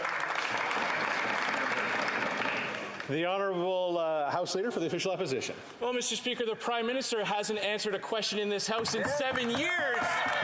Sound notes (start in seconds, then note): 3.6 applause